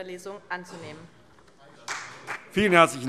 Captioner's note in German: Beifall CDU, BÜNDNIS 90/DIE GRÜNEN und SPD